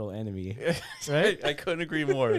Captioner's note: laughter